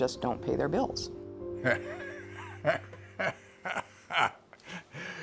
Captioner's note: laughs